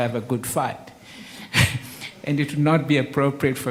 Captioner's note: laughs